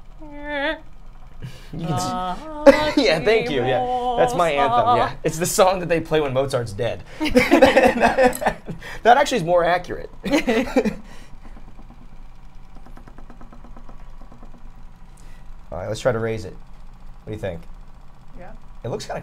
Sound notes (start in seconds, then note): 7.2 all laugh; 10.2 laugh